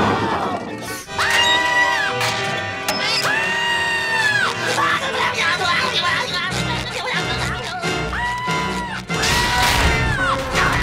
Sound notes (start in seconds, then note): 1.2 screaming; 3.2 screaming; 8.1 screaming